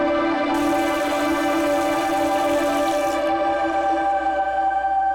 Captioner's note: water splashing